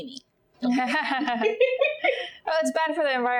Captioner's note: laughing